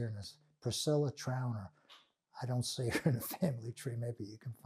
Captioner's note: laughing